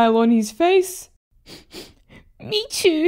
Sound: sniff! Sniff!

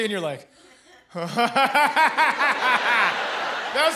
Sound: forced laugh

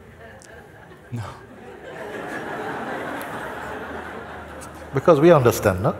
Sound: laughter

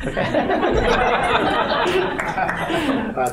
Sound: laughter

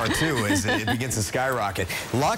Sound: laughter

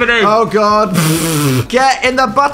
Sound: splutters

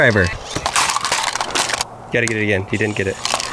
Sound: banging plastic

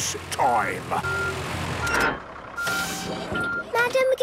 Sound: beeping, hydraulic noises

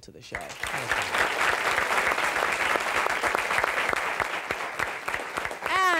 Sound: audience applause

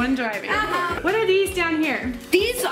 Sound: laughs

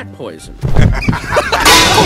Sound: Django and Emile laugh anain

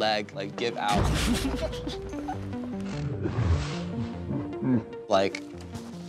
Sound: laughter

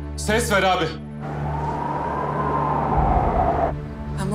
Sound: siren sounds

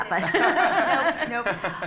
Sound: laughter

